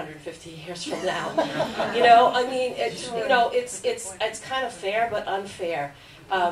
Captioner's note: laughter